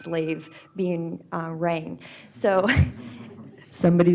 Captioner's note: cell phone rings